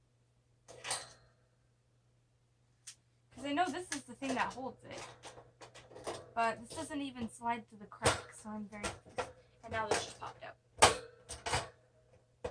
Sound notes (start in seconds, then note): 8.8 cage noises